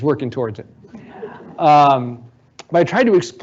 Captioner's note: audience laughing